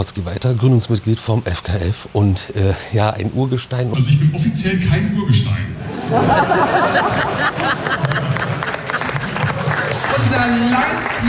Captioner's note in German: gelächter